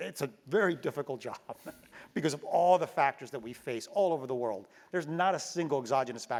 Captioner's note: laugh